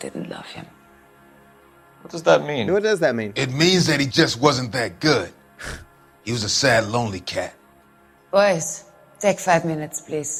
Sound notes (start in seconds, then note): 5.6 laughs